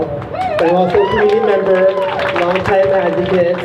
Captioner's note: crowd cheers